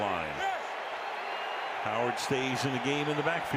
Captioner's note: cheering